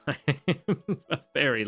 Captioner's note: laughs